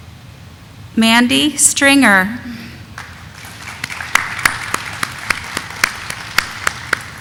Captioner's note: audience applauding